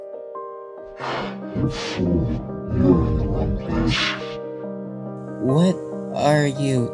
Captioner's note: sighs